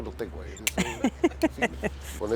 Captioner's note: ríe